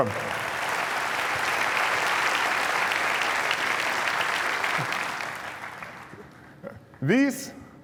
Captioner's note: applause